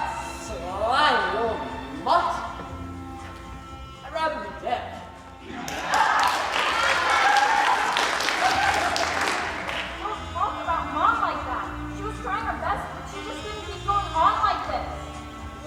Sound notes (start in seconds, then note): 5.6 applause